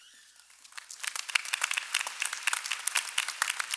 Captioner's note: applause